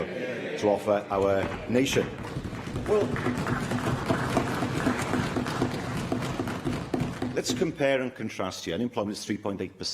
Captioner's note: applause